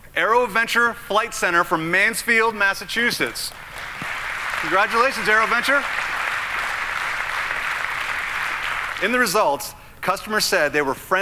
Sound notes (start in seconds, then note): 3.2 audience applauding